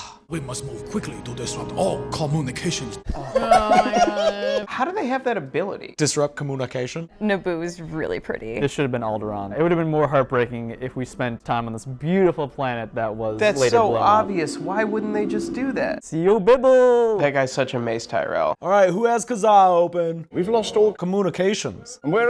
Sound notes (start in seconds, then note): 3.1 laughing